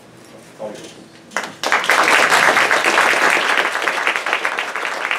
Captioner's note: applause